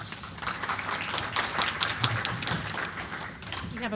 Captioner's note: applause